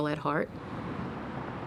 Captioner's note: car engine revving